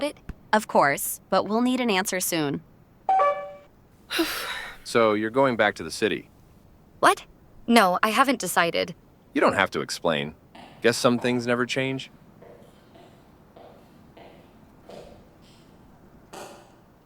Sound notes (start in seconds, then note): 3.1 phone call ends; 4.1 sigh